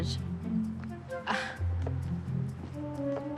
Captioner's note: scoffs